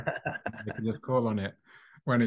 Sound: laughing

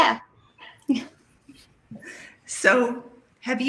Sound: laughs

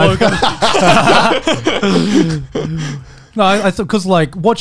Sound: everyone laughs

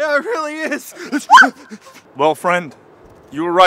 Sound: woman screams

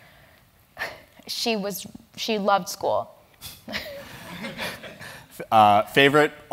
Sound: laugh

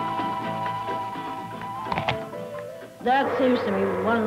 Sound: apple crunching

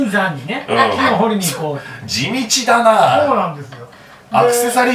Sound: laughs

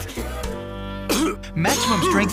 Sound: cough continues

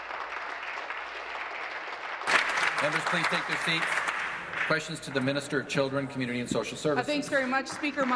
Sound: applause

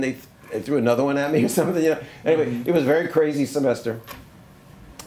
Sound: laughs

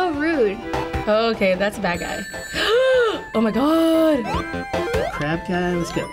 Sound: gasps

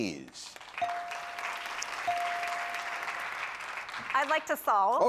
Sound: machine dings

